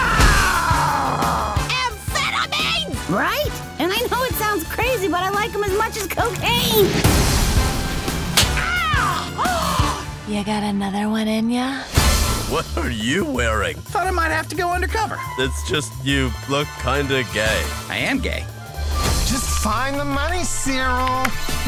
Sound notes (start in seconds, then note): 0.0 roars; 6.8 explosion; 8.3 loud slap; 9.5 gasps